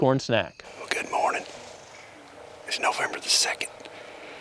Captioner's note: whispering